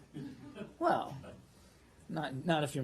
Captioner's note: laughter